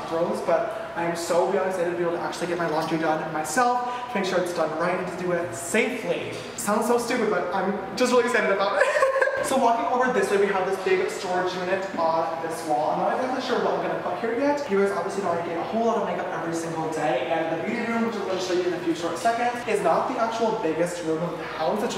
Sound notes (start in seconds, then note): 8.7 laughs